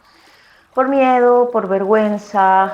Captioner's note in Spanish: sonidos de agua, rio con barca y voz off femenina #5